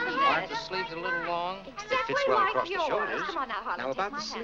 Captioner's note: customer and tailor arguing